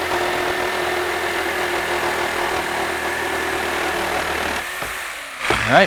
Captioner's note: saw buzzing, no additional audio